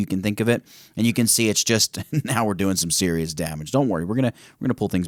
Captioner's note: chuckle